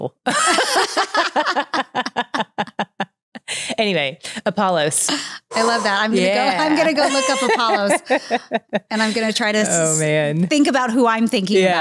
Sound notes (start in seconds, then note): 0.2 both laughing; 4.9 sighs